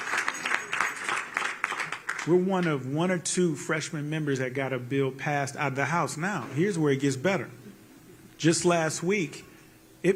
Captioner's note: applause